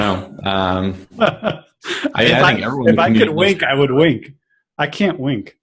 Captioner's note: laugh